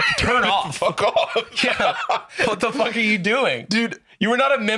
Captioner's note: laughs